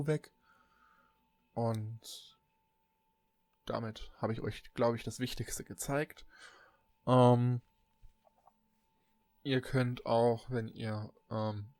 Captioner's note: ehm